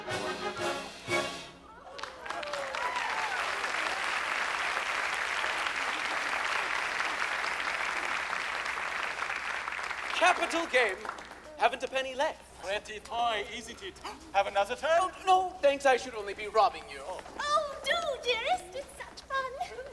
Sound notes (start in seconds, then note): 1.8 applause